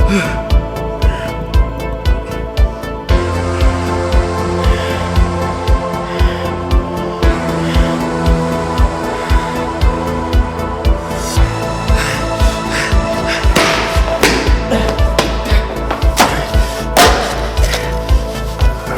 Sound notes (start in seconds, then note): 12.4 heavy breathing